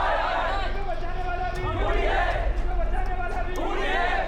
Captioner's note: thunder rumbling